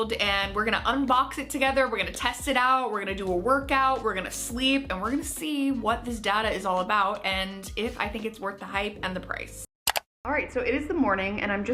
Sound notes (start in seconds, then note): 9.8 mouse clicks